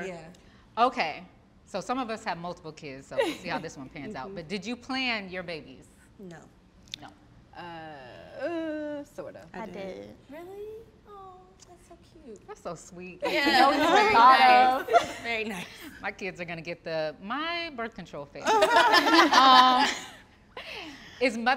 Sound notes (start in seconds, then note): 13.5 all laugh; 18.4 all laughing